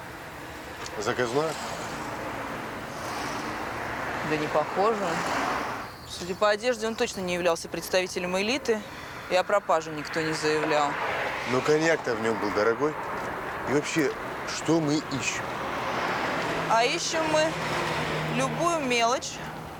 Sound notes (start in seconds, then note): none